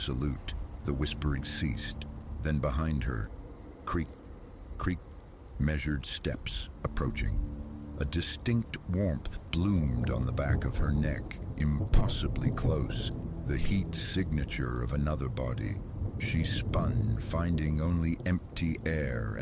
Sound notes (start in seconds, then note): 3.9 creak... creak